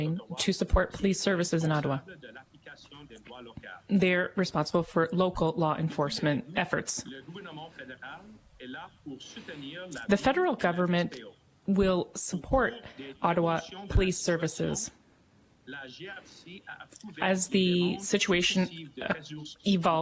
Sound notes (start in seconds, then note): 1.4 speaking French